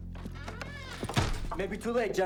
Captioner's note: door creaks and thuds